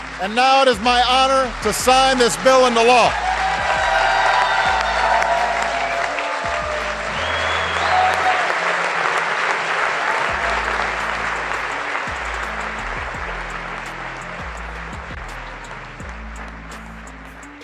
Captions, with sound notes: And now it is my honor to sign this bill into law. [cheers] [dramatic music]